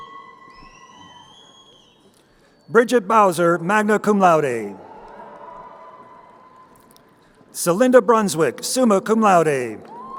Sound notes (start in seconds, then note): 3.8 crowd cheering; 9.0 crowd cheering